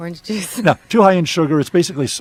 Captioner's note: laughs